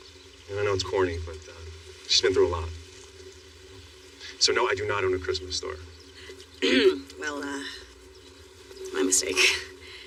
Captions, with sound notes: I knknow it's cocorny, but t she's beenen through a . So, , no, I do notot own a a Christmas ststore. [clelears throat] Well, uhuh... My mistakeke.